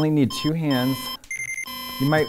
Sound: monitor beeping erratically, emitting continuous one

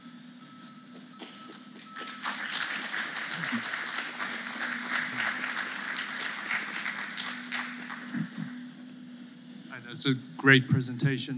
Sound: applause

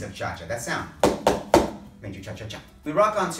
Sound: foot stomping

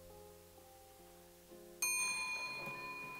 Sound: elevator ding

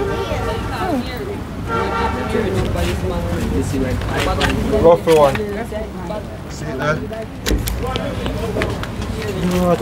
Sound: background conversation

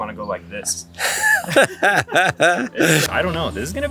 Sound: laughs

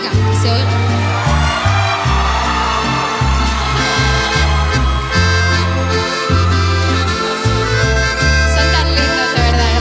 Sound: Gritos y aplausos

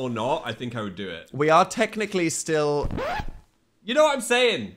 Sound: record scratches

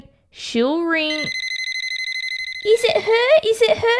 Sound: phone ringing

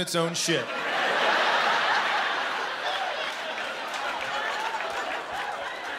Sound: laughter

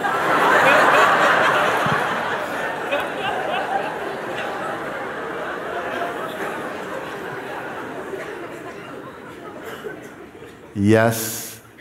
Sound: laughter

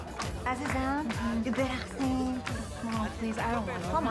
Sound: speaking foreign language

